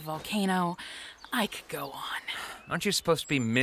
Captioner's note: sighs